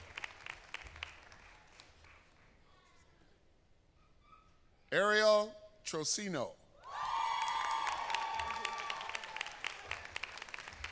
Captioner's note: applause